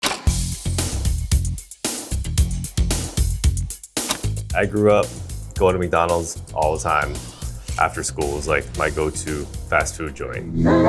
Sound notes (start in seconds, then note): 0.0 screen rattles; 0.0 upbeat music